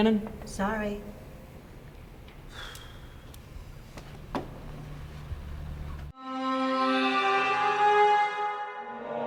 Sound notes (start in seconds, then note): 2.5 Paul sighs; 6.2 ominous music